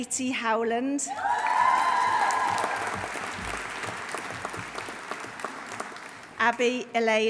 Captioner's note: audience cheering; audience applauding